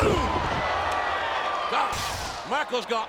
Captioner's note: audience cheering